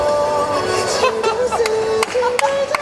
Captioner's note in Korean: 빵터짐